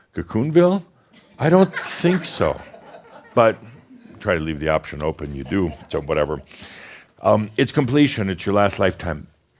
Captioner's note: some chuckles